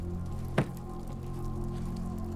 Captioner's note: door closes